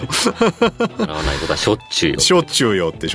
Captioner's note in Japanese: 笑い